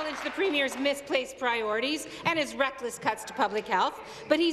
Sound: applause

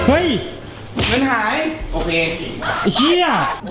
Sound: pat; pat

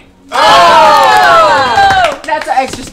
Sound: cheering

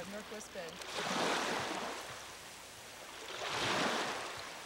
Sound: water splashing gently

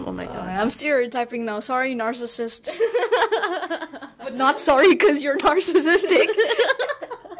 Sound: laughs

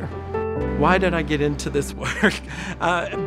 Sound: laughing

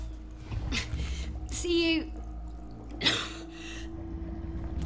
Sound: coughs

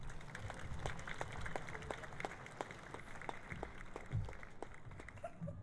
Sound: applause

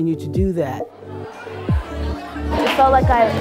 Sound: youth talking

